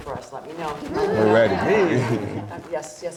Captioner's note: audience laughing